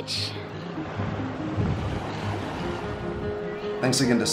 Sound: waves crashing

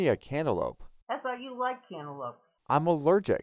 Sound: voiceover

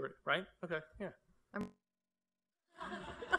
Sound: laughter

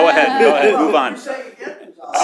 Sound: laughter

